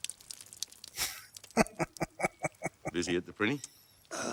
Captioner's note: chuckling